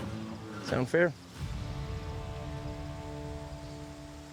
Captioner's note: none